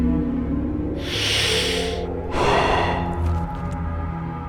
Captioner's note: ??? stood up and finally took a deep breath and exhaled